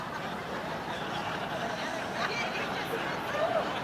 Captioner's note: audience laughs